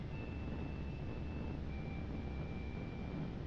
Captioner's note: none